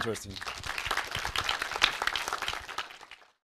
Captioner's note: applause